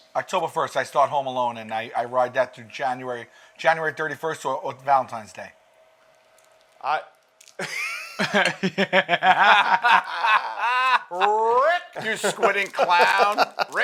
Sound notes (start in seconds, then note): 7.6 laughter